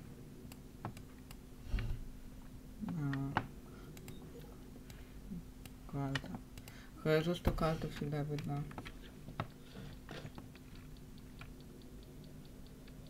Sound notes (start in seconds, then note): 1.1 sighs